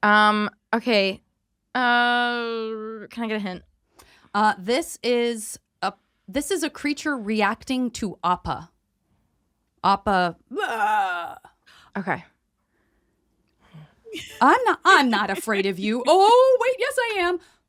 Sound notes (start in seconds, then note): 10.5 growls